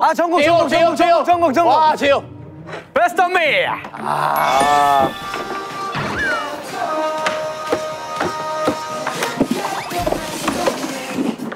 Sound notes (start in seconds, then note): 4.4 ding dong; 9.5 throwing shoes